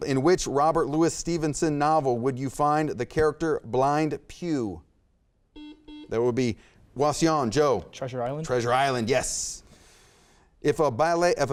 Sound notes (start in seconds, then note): 5.5 buzzer beeps